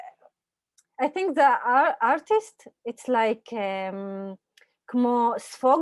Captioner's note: Hebrew